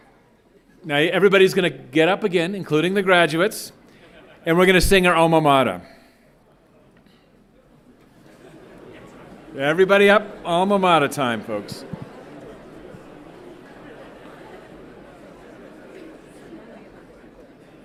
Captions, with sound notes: Alright, now everybody's gonna get up again, including the graduates, and we're gonna sing our Alma Mater. Everybody up, Alma Mater time folks. (everyone chattering)